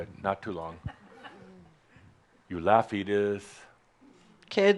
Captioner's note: chuckles